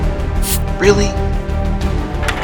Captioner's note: water splashing